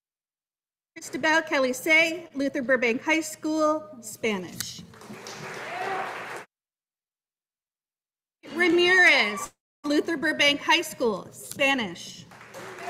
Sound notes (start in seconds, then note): 4.9 audience applauding